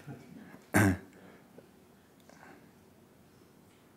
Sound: clears throat

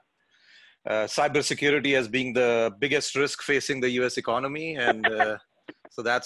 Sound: laugh

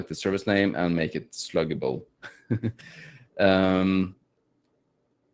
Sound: chuckles

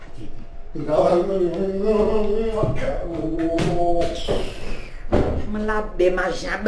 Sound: grumbling

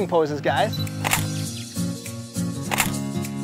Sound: camera beep and shutter click; click

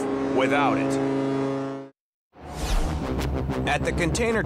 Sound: ship honking

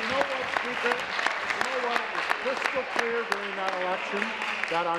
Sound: applause

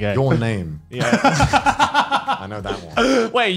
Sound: laughs

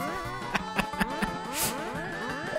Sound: laughs

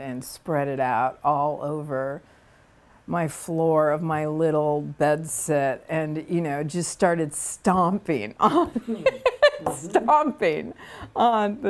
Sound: laughs

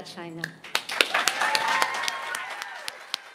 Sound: applause

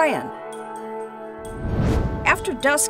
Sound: whoosh

